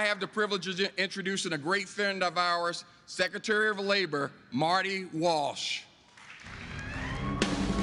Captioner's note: applause